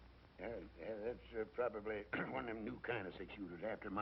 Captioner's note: clears throat